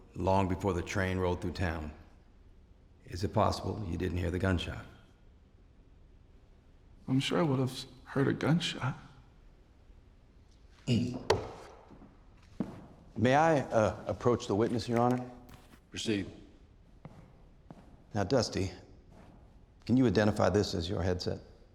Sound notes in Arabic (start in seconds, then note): 11.2 ينقر على الدرابزين; 11.7 خطوات